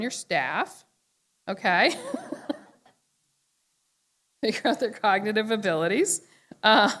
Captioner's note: laughter